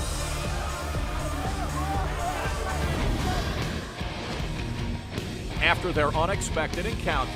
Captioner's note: crowd chatter